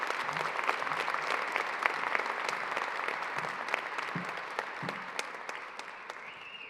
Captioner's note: applause